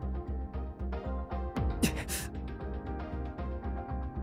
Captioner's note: gasp